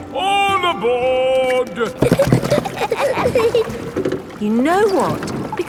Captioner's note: giggling